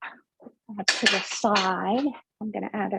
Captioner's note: clanging of dishes muffles speaker